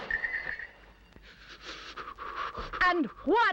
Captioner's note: shivering